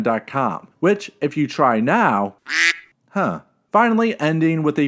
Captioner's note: quack